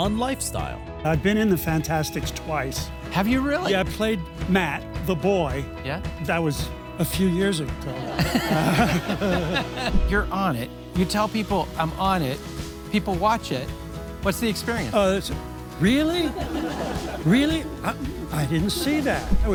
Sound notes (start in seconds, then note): 7.9 laughter